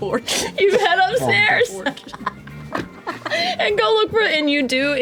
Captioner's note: laughs